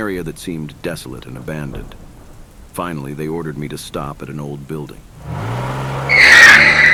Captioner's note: car brakes